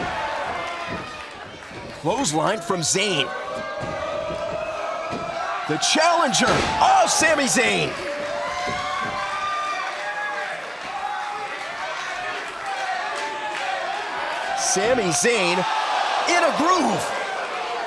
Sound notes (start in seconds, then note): 8.7 crowd cheering